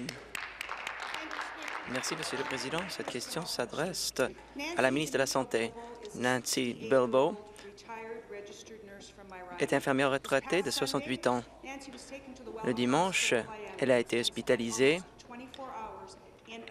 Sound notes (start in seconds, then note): 2.8 applause